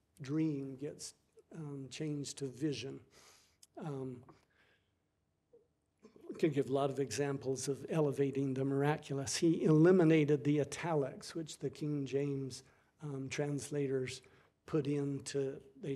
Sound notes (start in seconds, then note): none